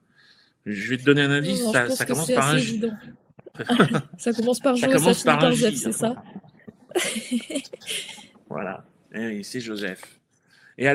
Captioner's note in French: rires